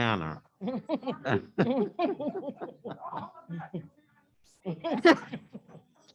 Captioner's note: laughing